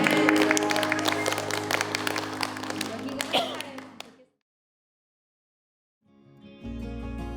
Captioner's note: congregation applauding; gentle inspirational music